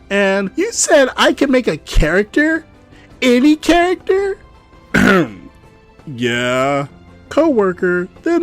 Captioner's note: clears throat